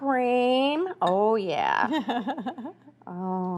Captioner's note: laughs